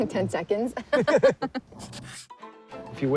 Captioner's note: all laugh